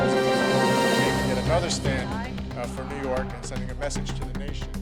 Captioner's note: ghostly Voice